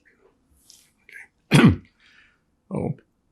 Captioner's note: clears throat